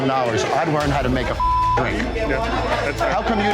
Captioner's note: beep